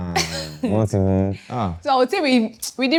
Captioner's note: laughs